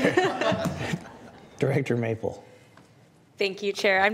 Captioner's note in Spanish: risas